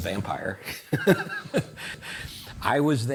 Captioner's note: both laughing